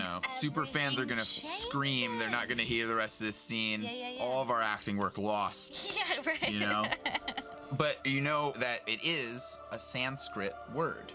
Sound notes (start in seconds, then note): 5.8 laughing